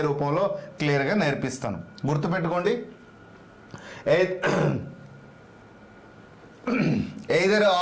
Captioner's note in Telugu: గొంతు సవరించుకోవడం